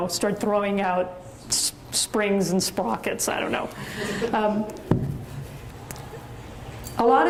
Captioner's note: audience chuckles